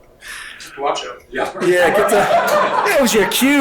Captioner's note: audience laughing